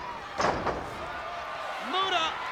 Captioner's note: body thuds